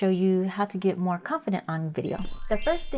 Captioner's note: bells chiming